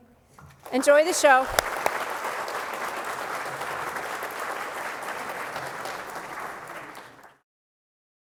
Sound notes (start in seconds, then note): 0.4 applause